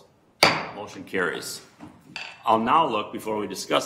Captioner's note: gavel bangs